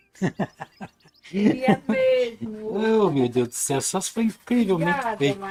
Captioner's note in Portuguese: risadas